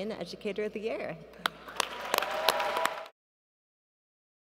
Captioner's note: applause